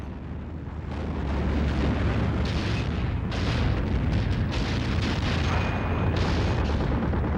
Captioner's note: explosions; gunfire